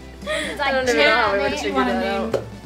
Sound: laughs; murmuring

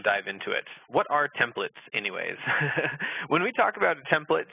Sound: laughs

